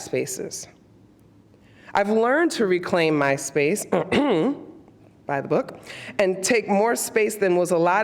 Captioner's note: clears throat